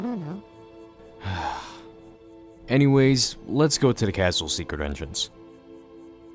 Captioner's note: sigh